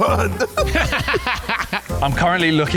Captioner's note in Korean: 웃음